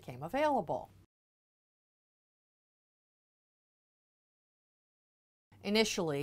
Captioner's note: no Sound Present